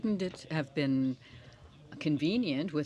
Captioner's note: speaking French